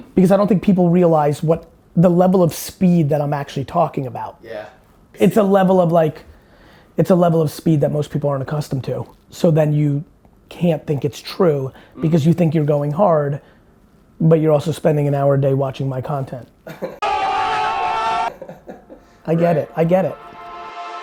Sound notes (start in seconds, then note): 17.1 yelling; 18.2 laughing